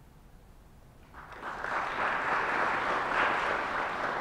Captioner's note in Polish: oklaski